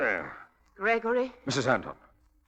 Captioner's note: grunting